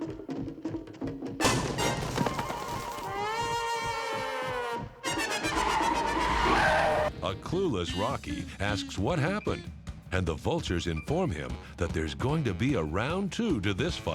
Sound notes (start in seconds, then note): 0.0 running footsteps approach; 5.1 brakes screeching